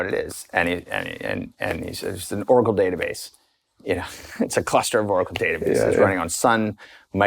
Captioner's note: chuckles